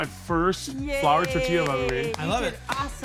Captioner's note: clapping